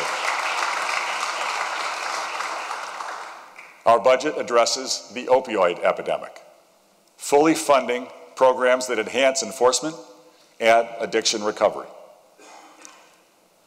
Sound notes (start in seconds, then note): 3.5 applause